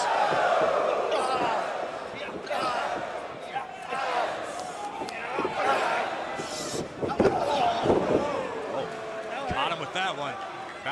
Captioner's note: crowd cheering